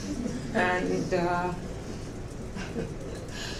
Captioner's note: laughs